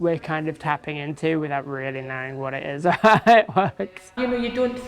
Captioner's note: laughs